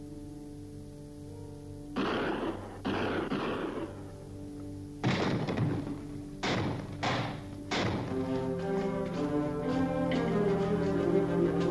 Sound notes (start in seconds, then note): 1.5 guns firing; 7.9 anticipatory music